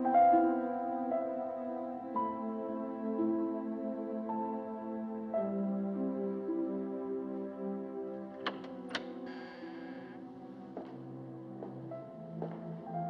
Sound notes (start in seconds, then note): 8.4 door Opens, Hinges Creak; 10.6 footsteps Approach